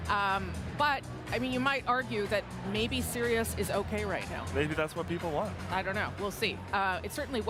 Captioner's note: none